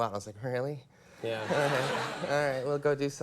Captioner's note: audience laughs